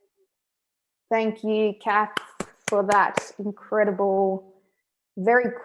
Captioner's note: clapping